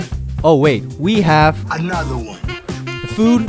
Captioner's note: DJ Khalid voice